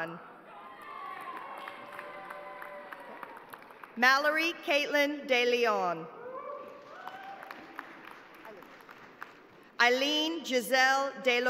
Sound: cheers and applause

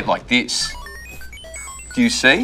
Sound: digital and electronic beeps

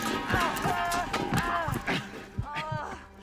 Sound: groaning

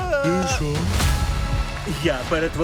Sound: dramatic tone sounds

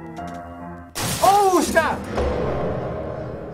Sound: clattering noises

